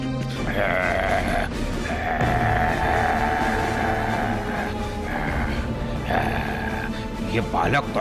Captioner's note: Tranavarth grunting